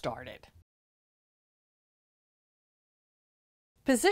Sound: no Sound Present

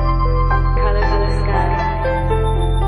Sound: Arabic; Vietnamese

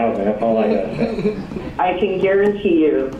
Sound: laughter

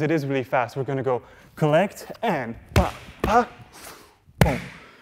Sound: breathe in

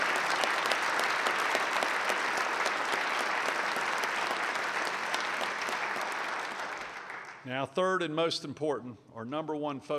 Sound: applause

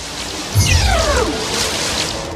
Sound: rapid zaps and crackles; ship groaning

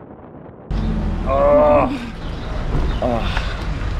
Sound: groans

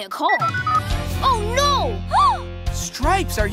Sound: Gabby gasps

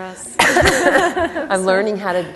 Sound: laughter

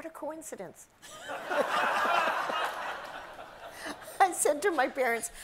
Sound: audience laughs

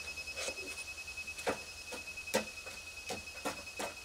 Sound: machine beeping

